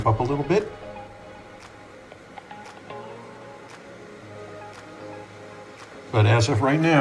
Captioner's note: sounds of fans spinning